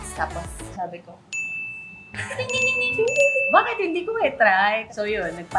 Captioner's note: ding